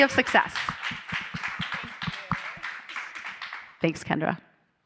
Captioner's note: audience applauding